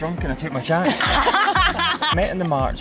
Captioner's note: both women laughing